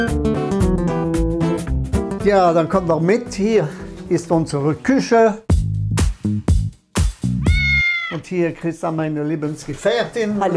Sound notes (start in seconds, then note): 5.4 casual music; 7.4 meowing